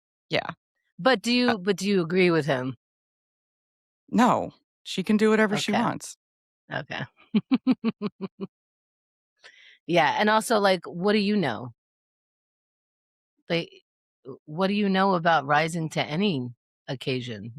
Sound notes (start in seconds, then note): 7.4 laughing